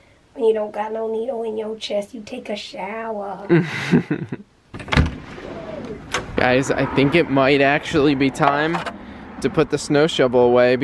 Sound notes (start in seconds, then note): 3.5 chuckles; 4.7 door opening